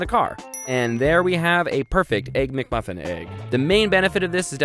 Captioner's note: dings